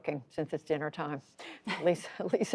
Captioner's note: laughter